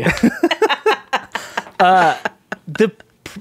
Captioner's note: laughing